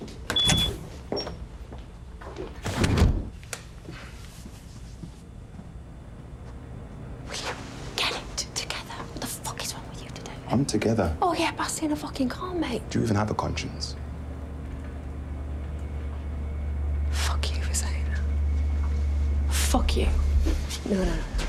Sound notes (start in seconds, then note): 0.2 door beeping; 2.5 door closing